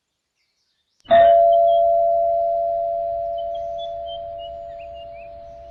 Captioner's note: door bell ringing